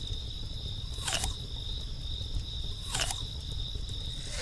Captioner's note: crickets chirping continues; mouth chomping